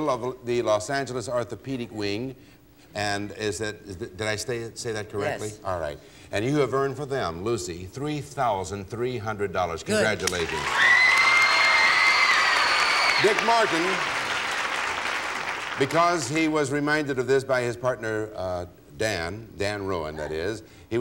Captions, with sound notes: of the Los Angeles orthopedic wing, and is it -- Did I say that correctly? -Yes. -All right. And you have learned for them, Lucy, $3,300. -Good. -Congratulations. (applause) -Dick Martin, because he was reminded of this by his partner, Dan, Dan Rowan that is,